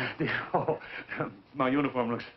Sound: chuckling

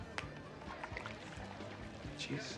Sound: water splashes

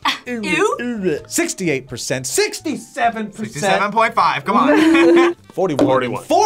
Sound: laughs

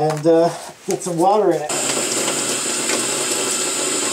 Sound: water running

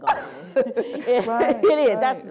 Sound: laughter

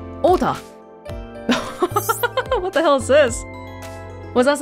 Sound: chuckles

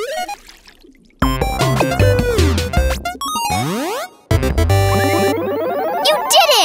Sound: videogame sounds

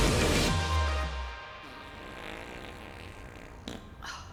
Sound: music swells to crescendo; farting

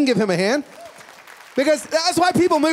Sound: applause

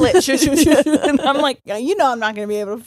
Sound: laughing

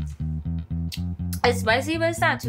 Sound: jazzy music; lips smacking

